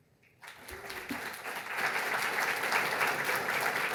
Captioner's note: applause